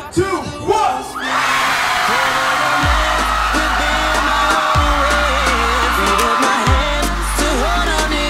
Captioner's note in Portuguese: Gritos